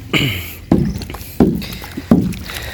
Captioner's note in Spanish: carraspeo